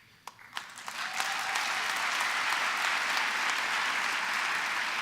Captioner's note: applause